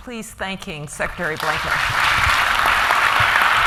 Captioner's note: applause